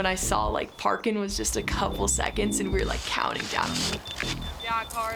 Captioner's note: beeping